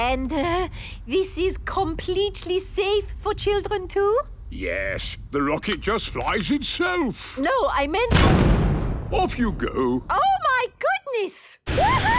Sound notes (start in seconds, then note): 8.5 blasts off